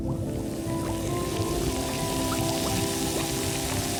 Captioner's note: fizzing